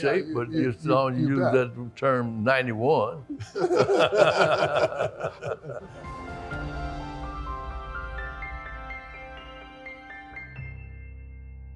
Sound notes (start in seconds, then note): 3.3 group laughs; 8.3 peaceful music